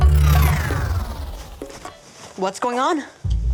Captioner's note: warp noise